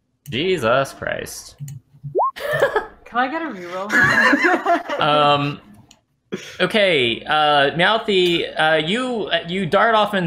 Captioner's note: laughter